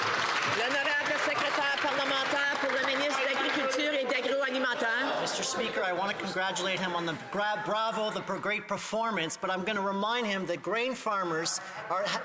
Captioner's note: some Applause